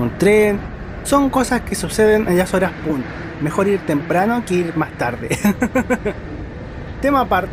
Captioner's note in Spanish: risas